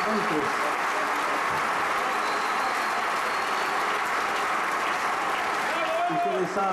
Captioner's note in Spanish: Aplausos-ovación; aplausos